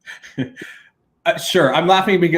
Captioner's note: chuckles